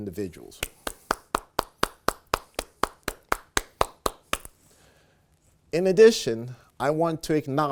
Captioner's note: applause